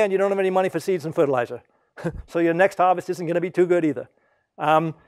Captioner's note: laugh